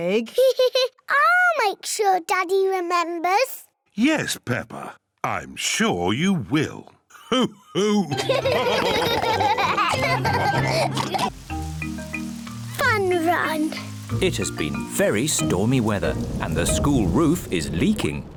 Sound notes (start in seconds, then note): 0.2 laughs; 7.7 all laugh